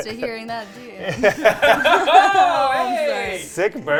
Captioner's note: all laughing